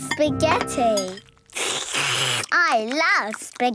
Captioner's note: slurping